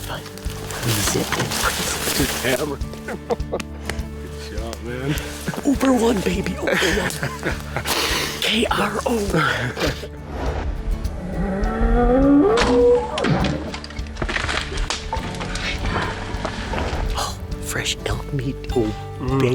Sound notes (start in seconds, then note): 3.5 laughs; 11.0 elk bugling; 12.2 bowstring thuds